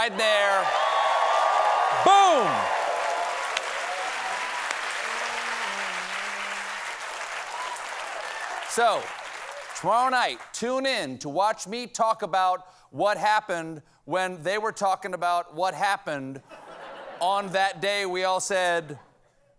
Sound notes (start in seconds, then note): 3.6 applause